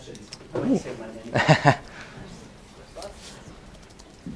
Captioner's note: laughs